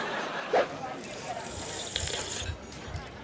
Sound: slurping

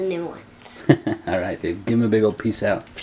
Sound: laughs

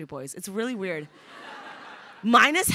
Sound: crowd laughing

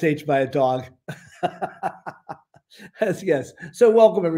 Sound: laughter

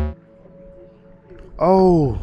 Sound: computer buzzes; ethereal music

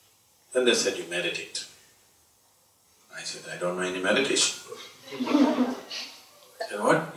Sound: laughter

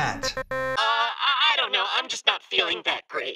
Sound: electronic buzzing sounds

